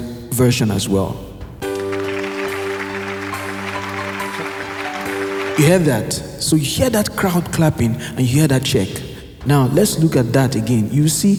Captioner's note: crowd clapping & check